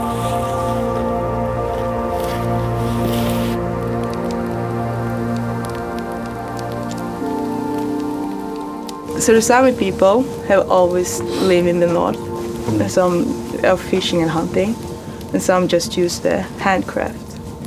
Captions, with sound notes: (soft music continues) (fire crackles) - The Sámi people have always lived in the north and some of fishing and hunting and some just use the handcraft